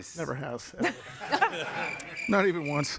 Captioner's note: all laughing; crickets chirping